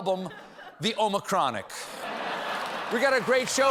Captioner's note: laughter